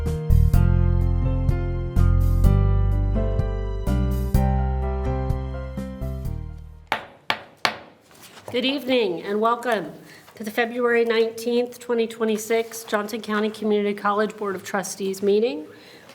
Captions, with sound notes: (gavel bangs) - Good evening and welcome to the February 19th, 2026 Johnson County Community College Board of Trustees meeting.